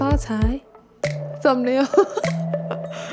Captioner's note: rhymes in Mandarin